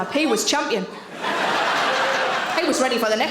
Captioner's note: audience laughing